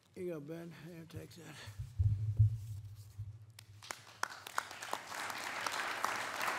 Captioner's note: applause